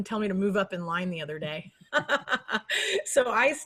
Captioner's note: laughs